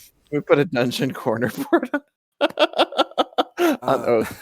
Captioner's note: laughing